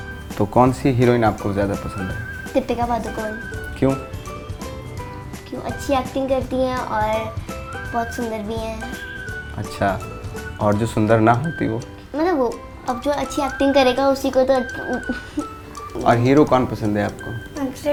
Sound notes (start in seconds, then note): 14.6 giggles